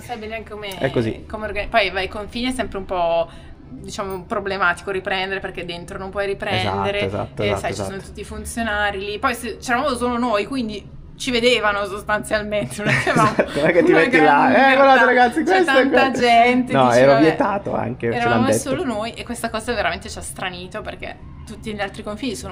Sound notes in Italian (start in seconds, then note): 12.7 risate